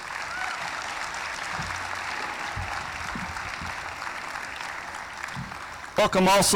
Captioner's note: applause